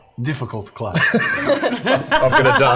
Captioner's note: laughter